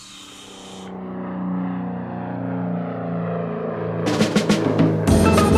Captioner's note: plane taking off; upbeat music